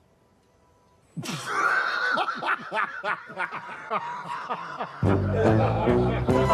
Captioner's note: laughs